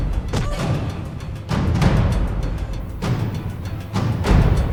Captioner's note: both grunting